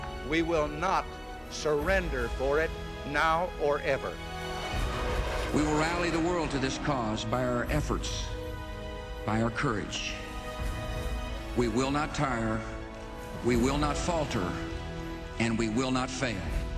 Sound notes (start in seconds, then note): 4.7 jet engine revving